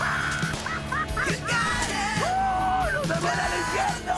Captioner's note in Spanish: Risas; Gritos y exclamaciones